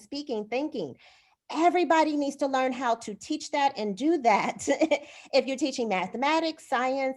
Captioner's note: laughter